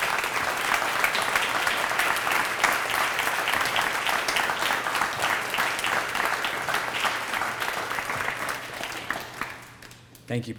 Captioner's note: applause